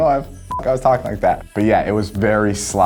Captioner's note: beep